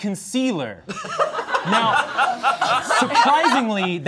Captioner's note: all laughing